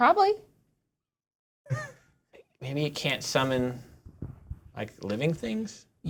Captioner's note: laughter